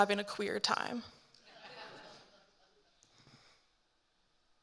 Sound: audience laughing

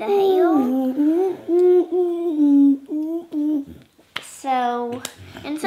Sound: humming

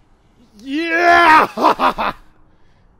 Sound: more cheering

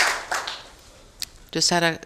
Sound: applause

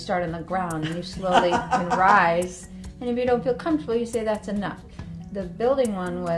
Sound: laughter

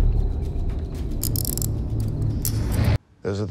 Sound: handcuffs click

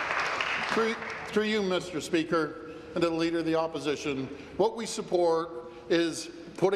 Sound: applause

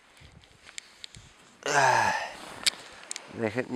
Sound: sights sadly

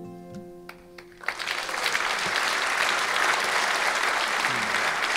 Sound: audience applauding

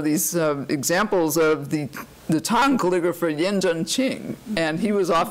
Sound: foreign language

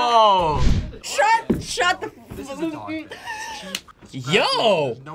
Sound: gasps

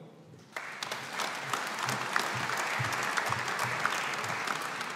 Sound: audience applauding

